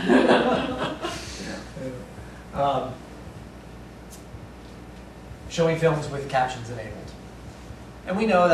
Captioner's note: laughter